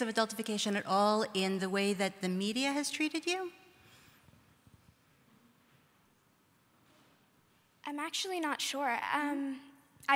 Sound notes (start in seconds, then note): none